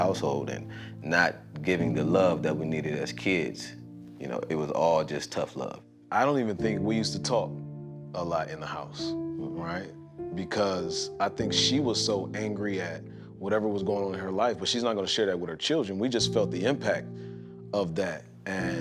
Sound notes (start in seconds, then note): none